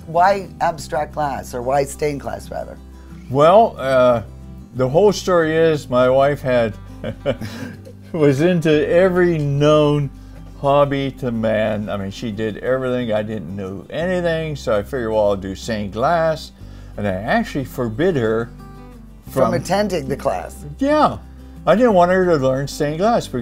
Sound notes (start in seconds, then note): 7.0 laughs